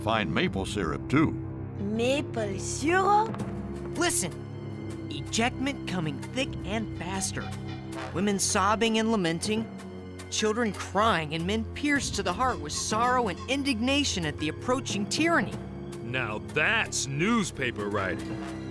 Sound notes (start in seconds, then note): none